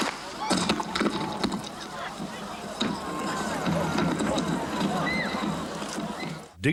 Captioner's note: gun fires; people shouting; clattering